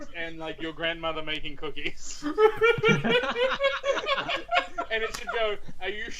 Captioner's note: laughter